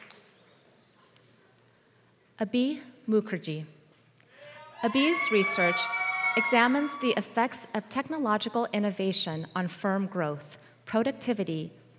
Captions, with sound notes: >> [APPLAUSE] >> Abe's research examines the effects of technological innovation on firm